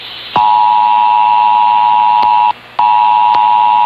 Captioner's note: another 853 / 960 KHz Dual Tone Attention Signal